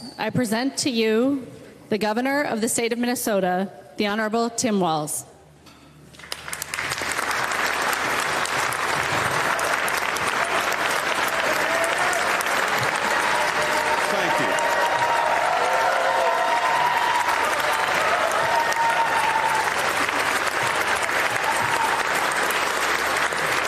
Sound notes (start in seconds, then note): 8.6 applause; 17.2 cheers & Applause